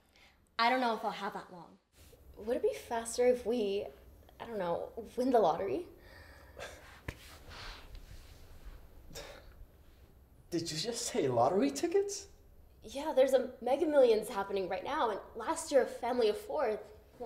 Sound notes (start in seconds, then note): 6.5 scoffs